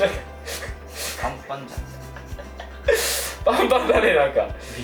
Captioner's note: laughs